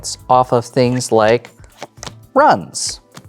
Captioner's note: cards slapping